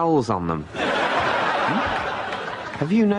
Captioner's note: stupid laugh track